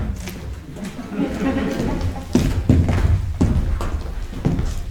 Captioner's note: crowd laughing